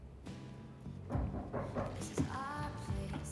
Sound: knocking

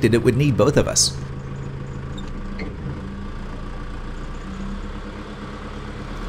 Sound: engine noise

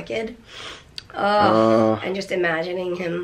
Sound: both groan

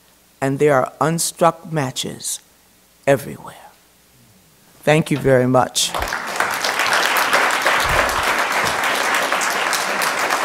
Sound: applause

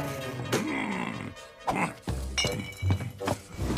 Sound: angry grizzy bear

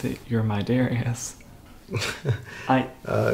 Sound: laughing

